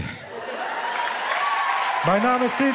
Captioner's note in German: Jubel, Applaus